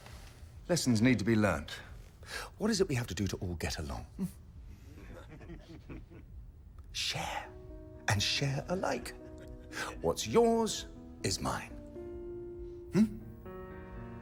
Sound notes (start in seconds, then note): 4.8 men chuckling